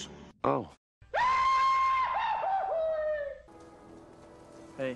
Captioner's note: screaming